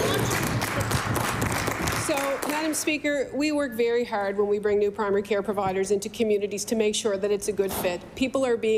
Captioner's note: applause